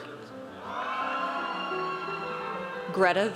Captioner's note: audience cheers